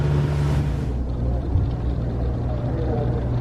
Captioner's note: background talking